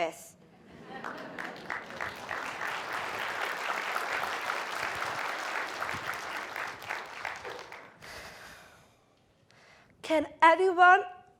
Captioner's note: applause